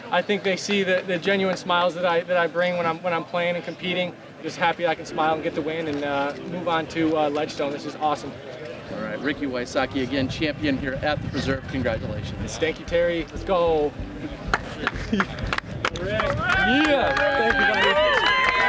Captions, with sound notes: I think they see that the genuine smiles that I bring when I'm playing and competing, just happy I can smile and get the win and move on to Ledgestone. This is awesome. All right, Ricky Wysocki, again champion here at the Preserve. -Congratulations. -Thank you, Terry. Let's go. [applause] -Let's go, Rick. Let's go, Rick. -Yes, thank you, everybody.